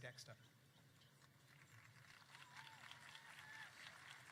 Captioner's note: applause